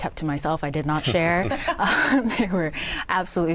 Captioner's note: laughter